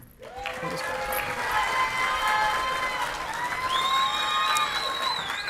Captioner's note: audience clapping and cheering